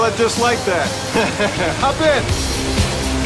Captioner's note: laughs